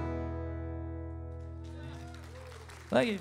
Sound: audience cheering

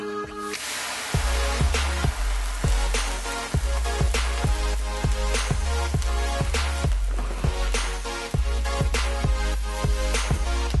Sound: sizzle sounds

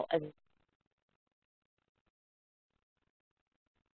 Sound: audio cuts out

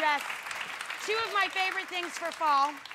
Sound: applause

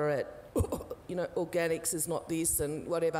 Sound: coughing

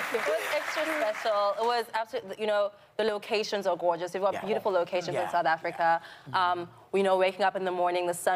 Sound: applause

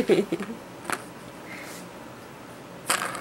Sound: laughs

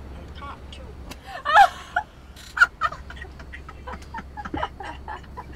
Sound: laughing

